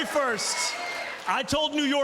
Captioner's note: cheers and applause